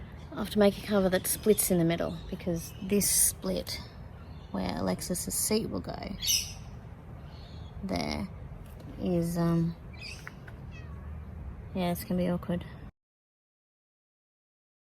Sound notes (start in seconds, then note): 10.7 cat meows